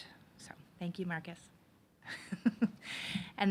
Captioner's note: chuckles